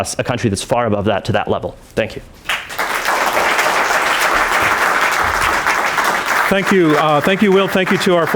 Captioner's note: applause